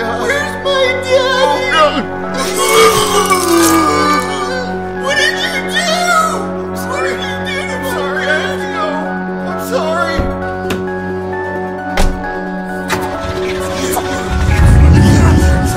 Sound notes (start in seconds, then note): 2.4 vomiting; 11.9 slams car door; 12.7 engine starts